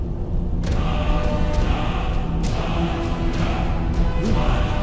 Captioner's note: chanting